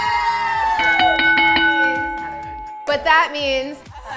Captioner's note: cheering; bell rings